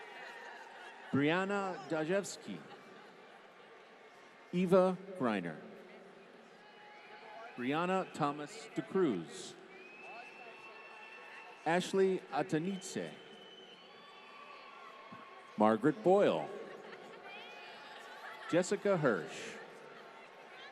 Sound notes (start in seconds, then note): 10.0 applause; 13.0 applause; 16.5 laughter